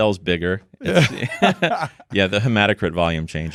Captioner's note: both laughing